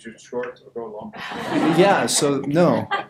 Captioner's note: audience laughter